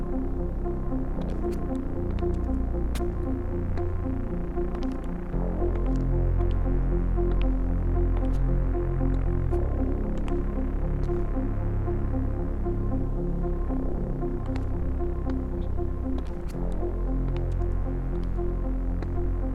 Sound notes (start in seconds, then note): 0.1 dramatic music; 1.2 footsteps tapping; 5.3 dramatic music; 14.2 footsteps tapping; 16.6 dramatic music